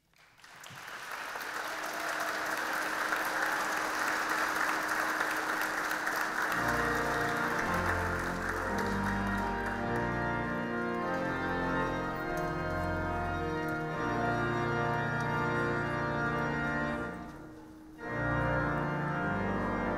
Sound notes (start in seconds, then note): 0.6 audience clapping; 6.5 organ music